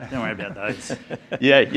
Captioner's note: laughter